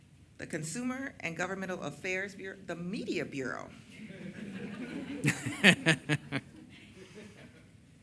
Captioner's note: chuckles